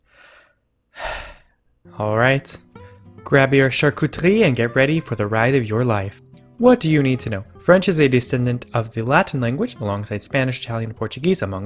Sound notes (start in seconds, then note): 0.9 deep breath